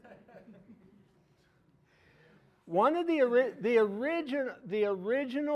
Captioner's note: audience laughing